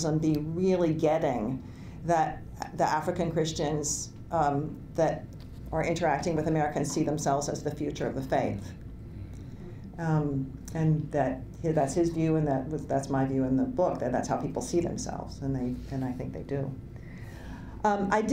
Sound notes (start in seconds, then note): none